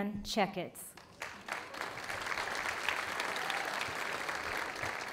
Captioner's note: audience applauding